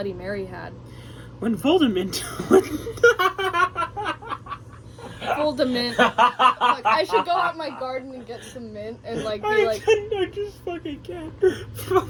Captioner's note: laughing